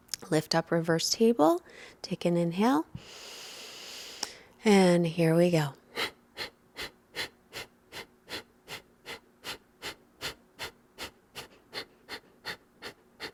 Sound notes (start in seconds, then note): 3.0 inhales deeply; 6.0 exhaling loudly